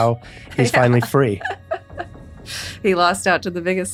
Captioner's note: laughs